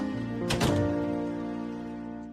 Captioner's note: door opens, closes